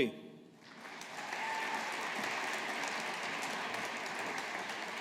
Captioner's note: audience applauding